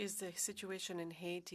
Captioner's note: speaking French